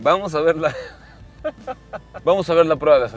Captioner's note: laughing